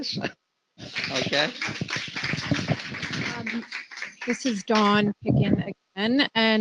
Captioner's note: applause